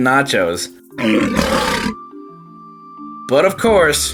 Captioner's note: lion roars